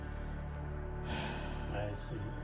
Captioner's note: sheriff sighs